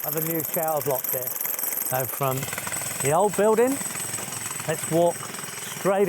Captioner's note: drill whirring